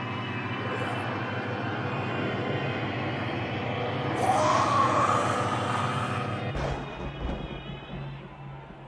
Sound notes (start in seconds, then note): 4.4 yelling